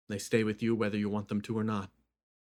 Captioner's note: none